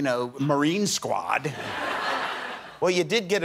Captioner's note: laughter